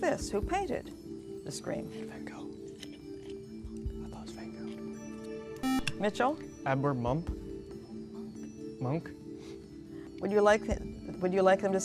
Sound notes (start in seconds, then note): 2.1 whispering; 5.6 buzzer